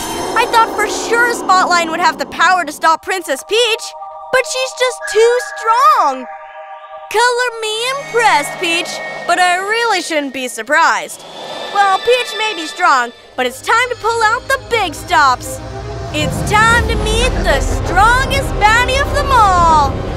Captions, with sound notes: I thought for sure Spotlion would have the power to stop Princess Peach... [bright resonating chime] but she’s just too strong! [music stops] Color me impressed, Peach... but I really shouldn’t be surprised. Well, Peach may be strong, but it’s time to pull out the big stops! [wondrous orchestral music] It’s time to meet the strongest baddie of them all.